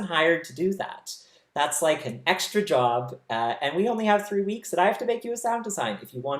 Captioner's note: none